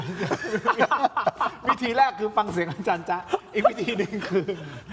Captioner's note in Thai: เสียงหัวเราะ